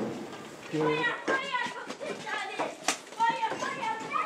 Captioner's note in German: Kinderstimmen im Hintergrund, leises Gespräch